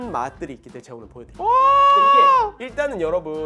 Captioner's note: excited Noises